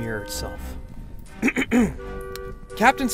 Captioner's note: clearing throat to speak up